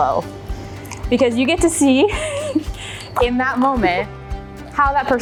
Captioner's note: chuckles